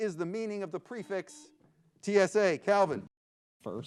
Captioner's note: buzzer beeps